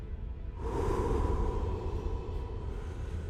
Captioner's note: blowing of the wind, deep breath